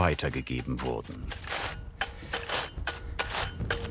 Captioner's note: rustling and knocking